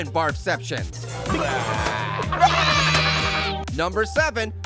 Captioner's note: characters burping